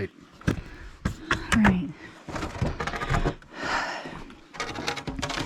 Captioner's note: sighs